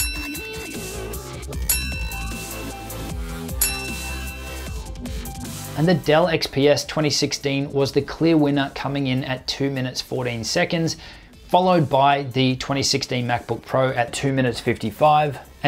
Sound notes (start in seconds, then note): 0.0 timer dings